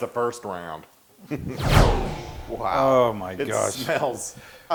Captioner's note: laugh